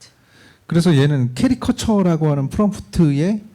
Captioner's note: speaking korean